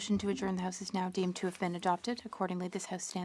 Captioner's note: speaking French